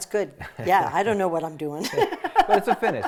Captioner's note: laughing